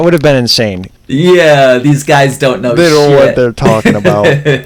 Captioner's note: laughs